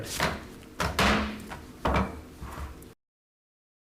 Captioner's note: gavel pounds